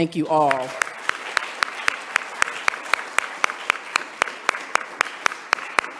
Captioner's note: audience applauding